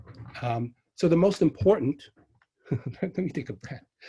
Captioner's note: chuckles